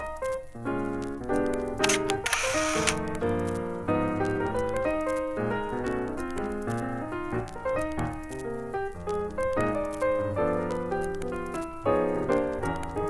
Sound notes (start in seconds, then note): 1.8 camera shutter clicks; 9.1 jaunty piano music continues